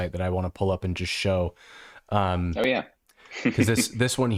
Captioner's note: chuckling